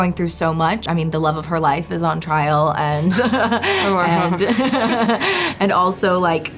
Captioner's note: laughs